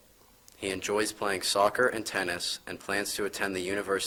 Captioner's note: none